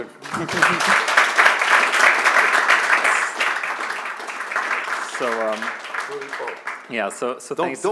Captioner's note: applause